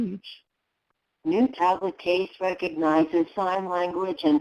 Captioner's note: computer Voice